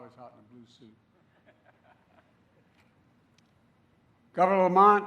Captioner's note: laughter